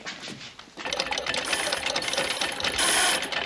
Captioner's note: rapid clicking, grinding